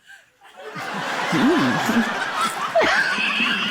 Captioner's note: laughter